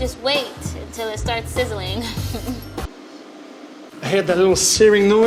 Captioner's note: chuckles